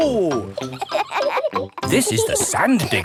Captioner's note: kids laughing